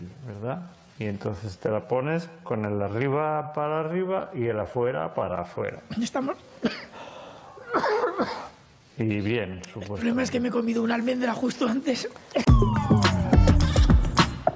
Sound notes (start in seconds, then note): 7.6 fernando simón coughs